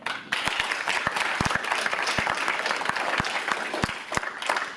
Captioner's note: audience applauds